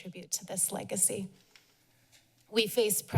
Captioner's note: pause